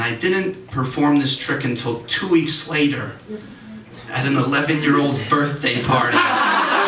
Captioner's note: audience Reaction